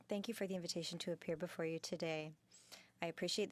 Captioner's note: speaking in French